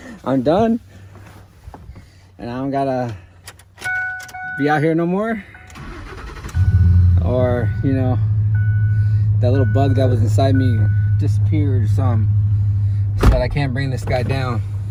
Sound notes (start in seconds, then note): 6.0 engine revving